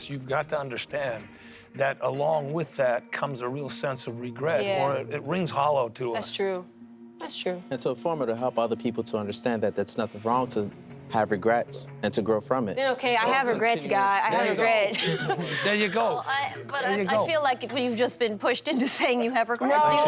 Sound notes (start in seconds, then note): 14.4 laughs